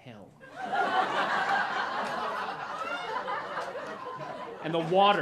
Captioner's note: laughter